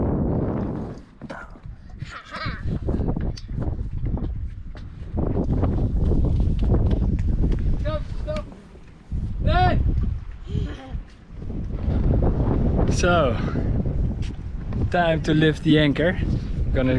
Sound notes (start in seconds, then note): 10.5 laughs; 12.3 wind blows